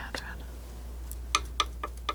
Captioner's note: scratching